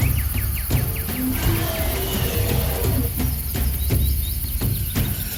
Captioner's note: louder roaring